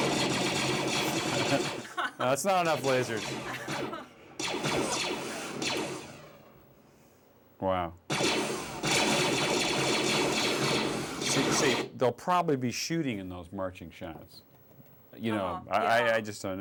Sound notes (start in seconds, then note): 2.7 laughing; 4.4 blasting Continues